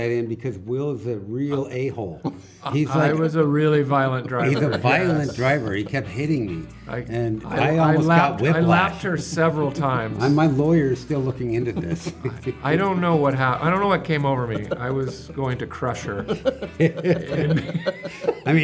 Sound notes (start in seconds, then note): 4.1 laughing; 9.7 giggling; 13.1 laughing; 16.6 laughing